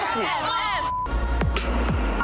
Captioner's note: all yelling; upbeat music plays